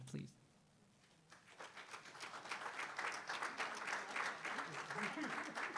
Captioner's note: audience applauding